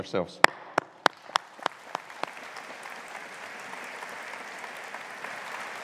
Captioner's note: audience applauding